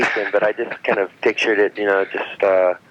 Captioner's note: laughing